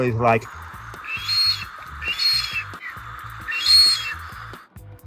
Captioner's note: duck whistling